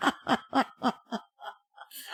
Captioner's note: laughter